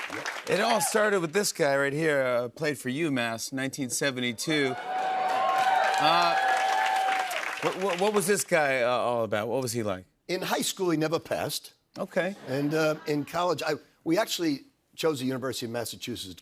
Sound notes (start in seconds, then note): 4.5 cheers and applause